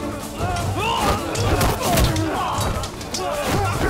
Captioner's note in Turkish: Darp sesleri